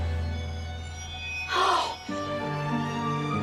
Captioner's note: gasps